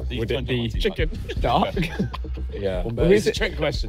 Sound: laughing

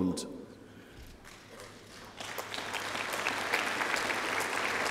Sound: applause

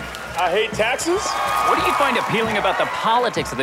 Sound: crowd cheering

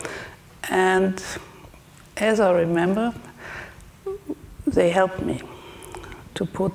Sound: speaks German

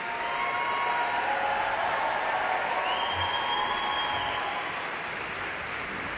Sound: audience cheering; audience clapping

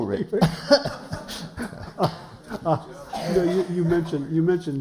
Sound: laughter

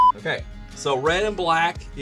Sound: beep

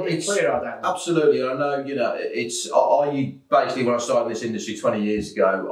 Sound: laugh

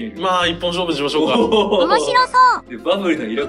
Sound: laughs

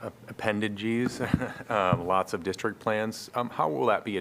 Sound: laughter

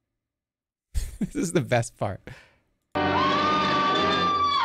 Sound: chuckles

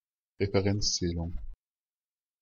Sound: fast Pronunciation

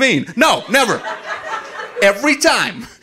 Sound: audience laughing

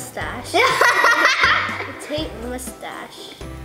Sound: laughs

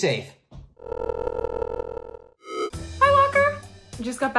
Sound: phone ringing

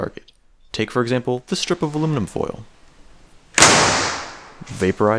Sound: bang

